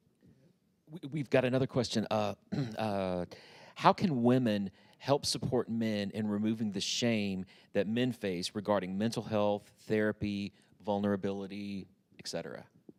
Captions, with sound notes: - We-- we've got another question, (clears throat) uh... "How can women help support men in removing the shame that men face, regarding mental health, therapy, vulnerability, etc.?"